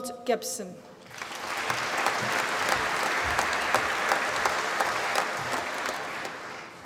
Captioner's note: applause